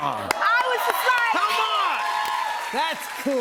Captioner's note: cheers and applause